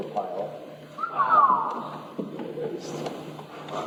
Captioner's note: some whistles in agreement